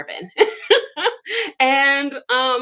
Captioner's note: laughs